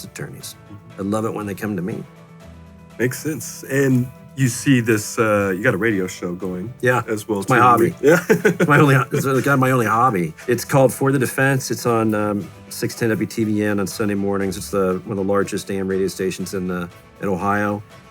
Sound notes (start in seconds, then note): 7.5 laughs